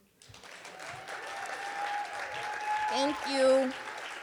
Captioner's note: audience applauding